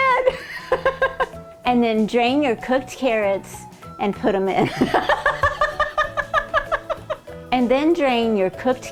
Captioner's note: laughing; laughing